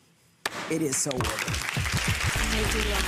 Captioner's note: audience clapping; mallet thudding